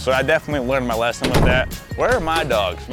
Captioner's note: doors slamming